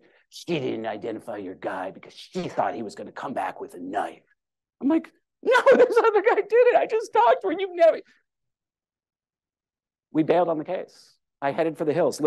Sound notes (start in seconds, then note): 5.4 laughter